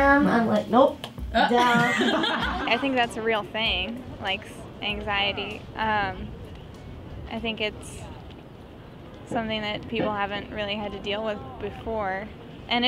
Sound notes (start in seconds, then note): 1.3 students laughing